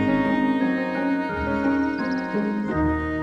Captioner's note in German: Vogelzwitschern